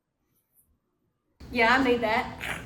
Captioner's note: growl